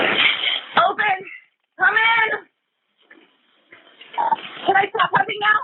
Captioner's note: calling out